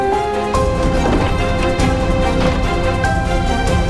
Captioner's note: door thuds